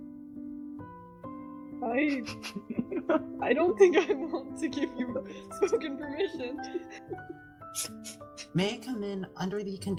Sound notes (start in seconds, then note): 7.2 ELEOS laughs